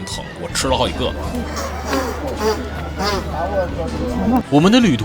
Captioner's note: noise of blowing nose